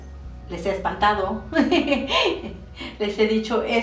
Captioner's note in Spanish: risa